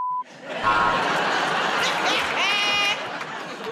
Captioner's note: buzzer buzzes; laughter